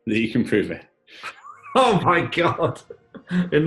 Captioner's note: laughing